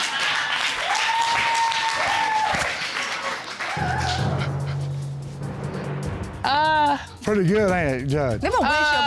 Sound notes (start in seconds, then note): 0.0 audience cheering